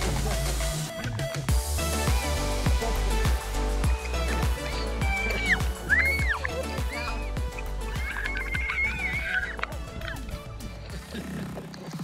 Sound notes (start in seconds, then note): 4.6 kid screaming